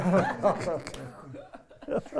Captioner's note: all laugh